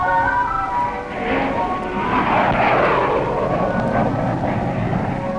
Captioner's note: plane droning